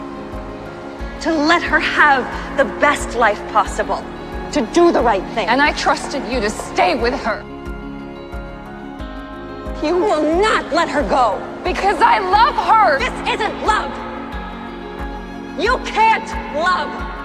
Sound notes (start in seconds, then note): 10.0 voiceover; 11.9 shouting; 15.6 shouting